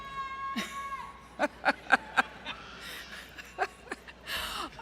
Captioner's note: laughter